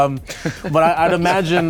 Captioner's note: laughter